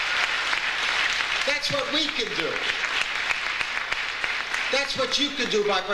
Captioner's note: audience applauds